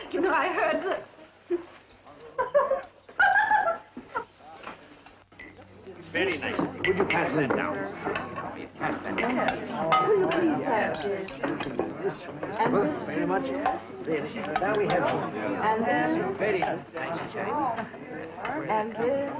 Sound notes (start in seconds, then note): 2.1 giggling; 14.1 party chattering